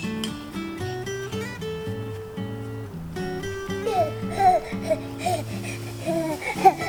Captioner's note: laughs